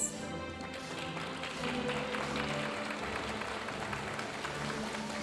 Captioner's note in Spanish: aplausos de la audiencia